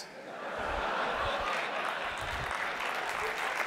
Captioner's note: audience laughing; audience applauding